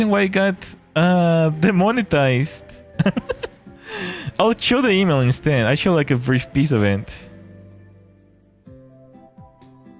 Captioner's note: laughter